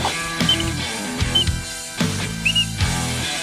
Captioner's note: water splashing; whistles